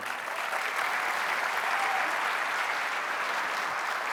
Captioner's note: audience applauding